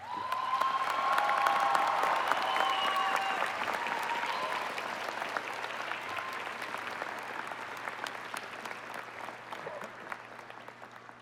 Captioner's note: cheers And Applause